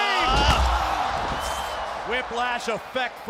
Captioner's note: crowd cheering